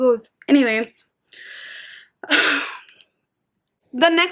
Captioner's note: takes a deep breath